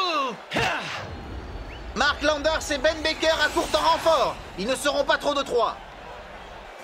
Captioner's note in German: beifall